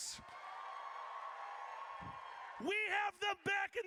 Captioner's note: audience cheers